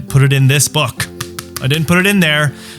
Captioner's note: tapping